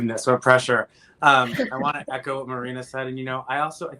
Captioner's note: laughs